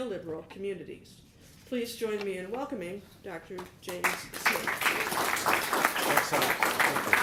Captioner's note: applause